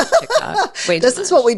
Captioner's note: laughing